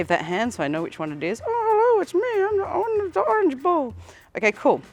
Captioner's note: in a funny characters voice